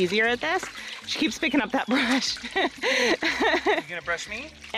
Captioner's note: laughs